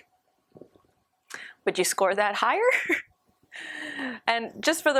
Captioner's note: laughter